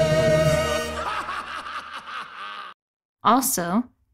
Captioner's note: evil laugh of the century